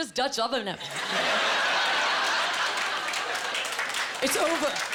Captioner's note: laughing